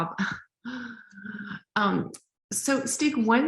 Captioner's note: laughing